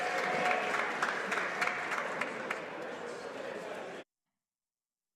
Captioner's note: some Applause